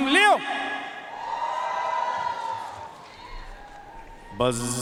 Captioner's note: audience cheering and applauding